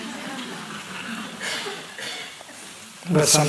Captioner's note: laughter